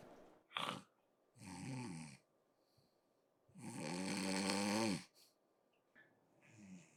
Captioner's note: Jesse is snoring loudly